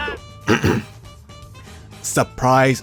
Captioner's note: uh hm